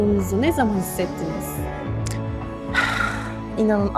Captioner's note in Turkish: iç çeker